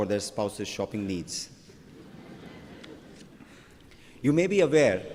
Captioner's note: laughter